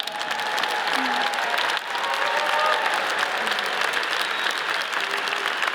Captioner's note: audience cheers and applauds